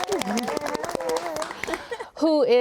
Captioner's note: panelists clapping and cheering